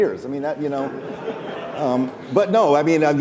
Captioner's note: laughing